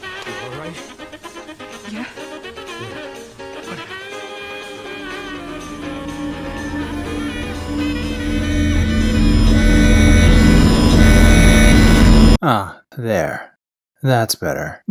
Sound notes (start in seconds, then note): 4.6 distorted sounds start quietly, but escalate quickly; 8.9 very loud distorted sounds